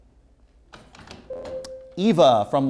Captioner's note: ringing